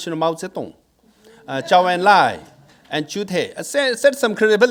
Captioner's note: speaking in foreign language